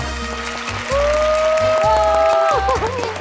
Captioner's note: cheering